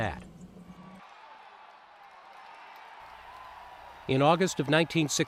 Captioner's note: crowd cheers